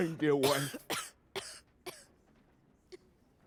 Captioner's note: coughing